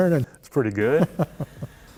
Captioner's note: chuckles